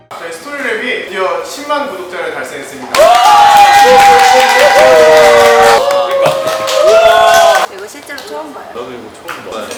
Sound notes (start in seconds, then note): 2.9 applause